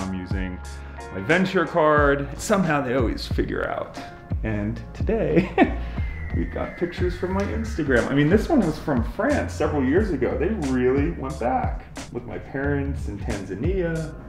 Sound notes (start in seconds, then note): 5.4 laughs